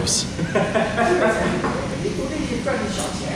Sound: laughing

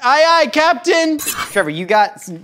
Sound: knife slices

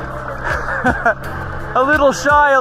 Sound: chuckles

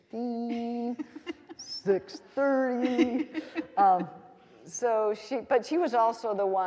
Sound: laughing

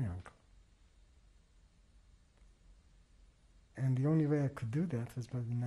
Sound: pauses for 3 seconds

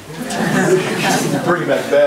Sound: group laughs

